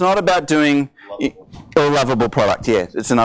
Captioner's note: voiceover